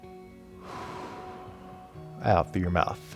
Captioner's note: inhaling; exhaling